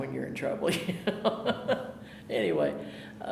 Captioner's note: laughing